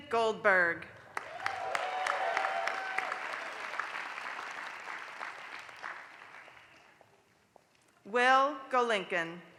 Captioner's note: applause